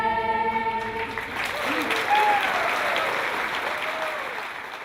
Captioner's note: applause